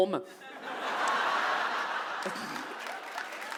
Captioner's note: audience laughs and claps